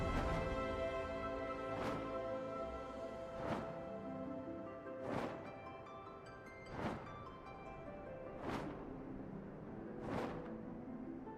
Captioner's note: whistles